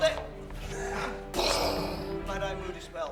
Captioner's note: imitates explosion